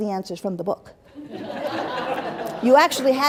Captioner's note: laughter